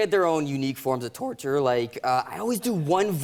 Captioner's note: voice cracks